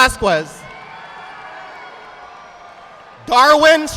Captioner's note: audience applauding